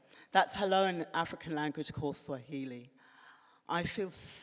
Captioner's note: none